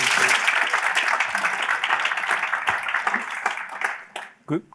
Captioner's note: applause